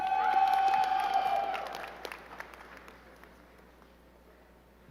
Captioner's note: crowd cheering and clapping